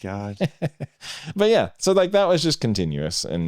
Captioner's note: laughing